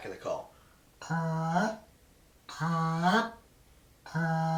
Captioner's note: goose call